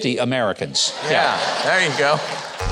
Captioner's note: audience laughs